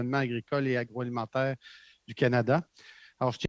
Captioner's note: speaking french